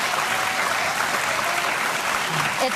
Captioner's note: audience clapping